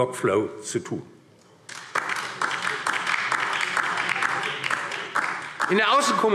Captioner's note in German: Beifall DIE LINKE und vereinzelt SPD